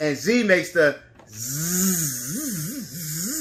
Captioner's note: buzzing